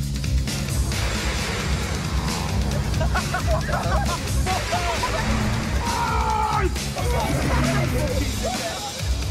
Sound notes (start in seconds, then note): 2.8 laughter